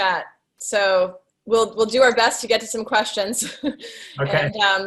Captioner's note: chuckles